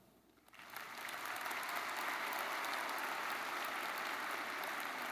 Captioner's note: audience applauding